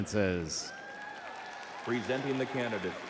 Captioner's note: audience cheering